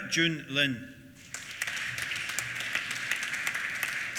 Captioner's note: applause